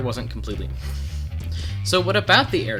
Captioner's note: inhale